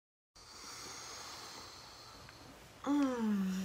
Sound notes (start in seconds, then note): 0.8 inhales